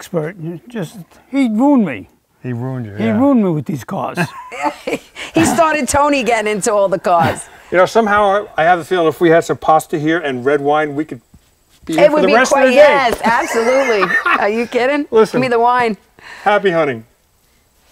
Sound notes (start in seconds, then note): 4.2 laughing; 13.3 laughing